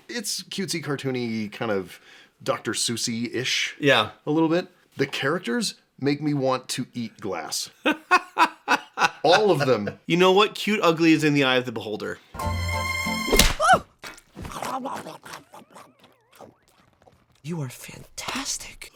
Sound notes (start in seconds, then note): 14.3 nom nom nom